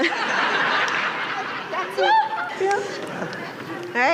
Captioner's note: laughter